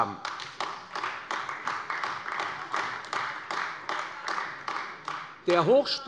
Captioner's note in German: Beifall AfD